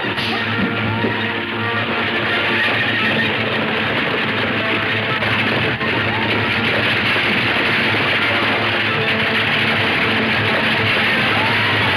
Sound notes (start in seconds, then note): 0.6 punch cracking; 8.8 gunshots banging